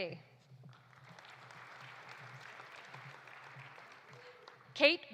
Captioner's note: audience applauding